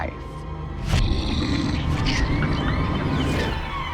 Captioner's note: growling